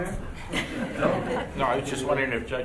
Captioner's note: laughing